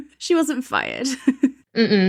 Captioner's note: laughing